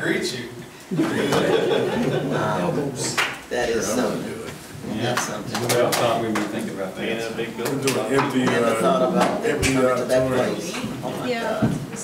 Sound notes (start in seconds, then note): 0.9 laughing; 2.9 murmurs